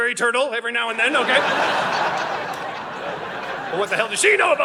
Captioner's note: audience laughing